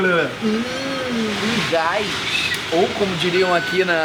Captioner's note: makes disgusted sound